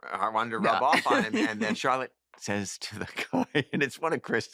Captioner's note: laughs